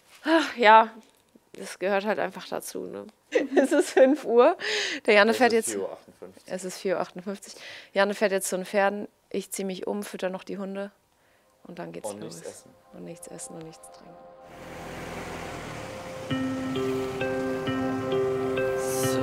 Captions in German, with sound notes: Hach, ja. Gehört halt einfach dazu, ne? (lacht:) Es ist fünf Uhr. Janne fährt jetzt ... - Es ist 4.58 Uhr. Janne fährt jetzt zu den Pferden. Ich ziehe mich um, füttere die Hunde. Dann geht's los. - Nichts essen. Nichts essen. (Motorengeräusch) (Verträumte Musik)